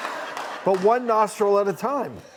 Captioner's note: audience laughs